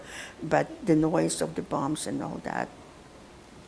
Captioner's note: none